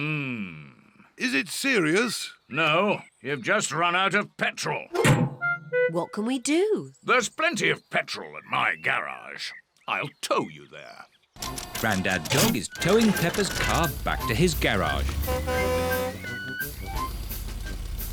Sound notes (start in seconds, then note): none